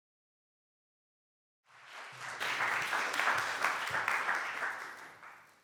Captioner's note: applause